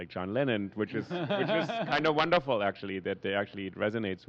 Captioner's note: laugher